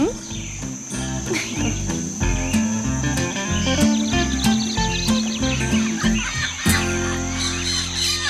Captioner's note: birds